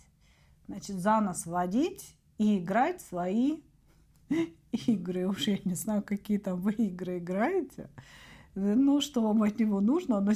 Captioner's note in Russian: смех